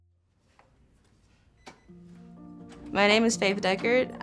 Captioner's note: door unlocking